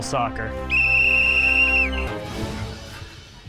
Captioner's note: whistling